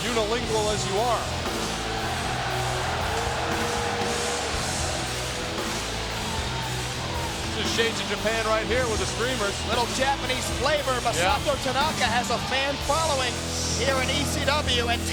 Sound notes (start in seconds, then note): 2.2 crowd cheering; 4.2 upbeat music continues